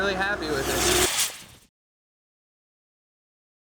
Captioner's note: water whooshes